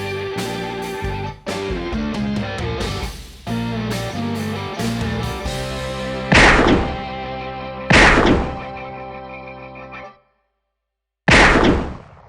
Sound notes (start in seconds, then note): 6.3 gunshots